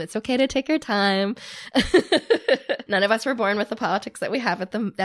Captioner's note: laughter